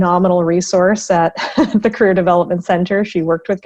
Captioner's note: laughs